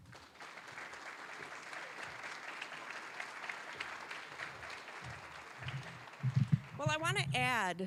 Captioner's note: applause